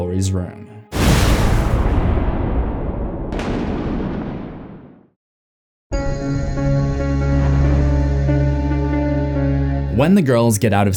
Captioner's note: thunder rumbling